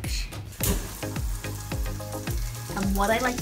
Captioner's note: sizzling